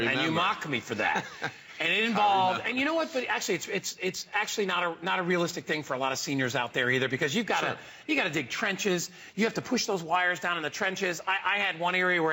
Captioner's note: laughter